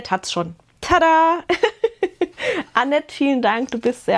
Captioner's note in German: gelächter